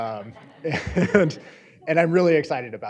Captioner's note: audience laughing